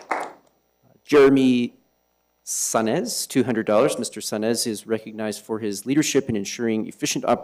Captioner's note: applause